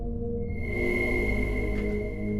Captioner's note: scary noise